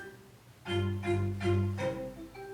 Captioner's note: none